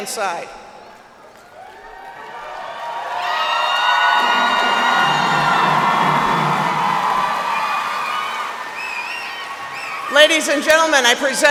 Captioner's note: cheers and applause